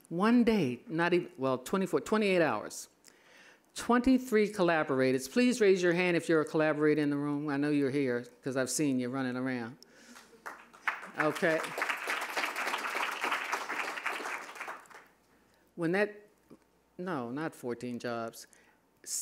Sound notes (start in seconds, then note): 10.1 applause